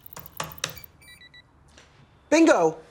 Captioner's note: beeping